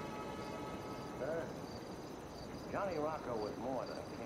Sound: crickets chirping

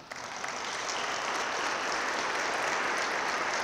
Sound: audience claps

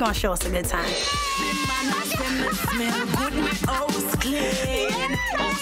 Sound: reggae music; girls laughing

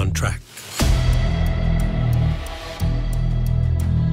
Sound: clock ticking

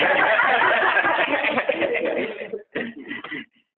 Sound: laughter

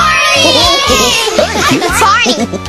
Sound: chuckle

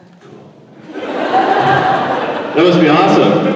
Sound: laughter

